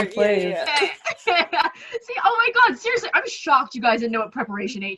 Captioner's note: laughs